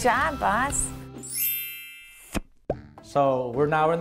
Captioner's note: bells chime